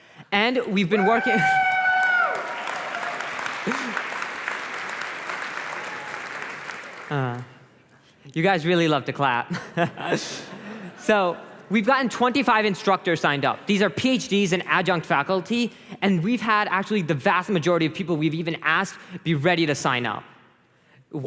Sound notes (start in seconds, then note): 1.4 applause